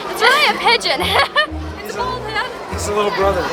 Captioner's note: laughs